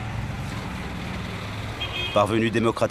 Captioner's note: horn honking